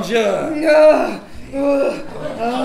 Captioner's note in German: grunzen